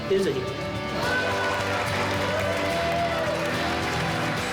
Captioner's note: cheering